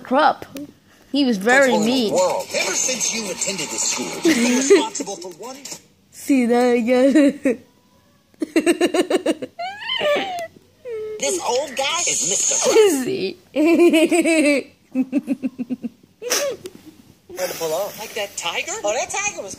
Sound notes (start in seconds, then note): 12.2 laughs